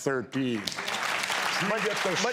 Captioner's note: audience claps